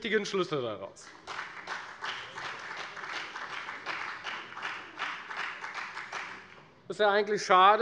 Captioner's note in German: Beifall bei der FDP